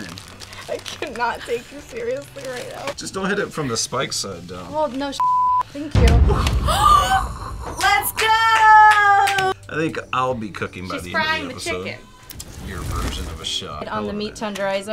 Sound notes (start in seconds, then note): 5.2 beep; 6.5 everybody gasps